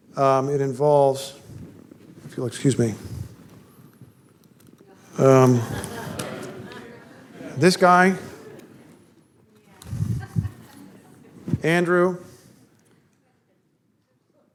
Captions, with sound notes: It involves -- if you'll excuse me. [audience laughter] This guy. Andrew.